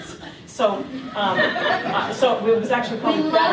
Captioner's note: laughter